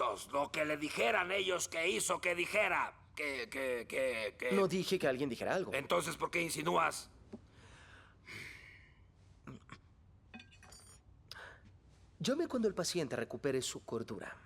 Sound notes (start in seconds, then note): 7.4 grumble